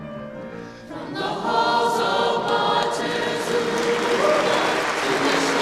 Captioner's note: audience applauding